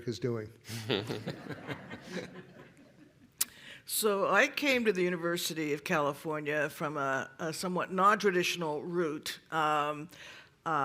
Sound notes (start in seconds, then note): 0.7 laughter